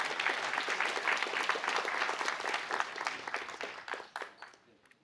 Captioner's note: applause